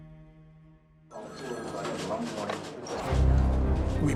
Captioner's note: phones ringing, people talking in background